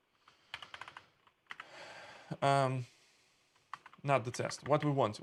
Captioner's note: sighing